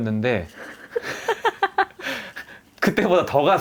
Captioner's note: laughs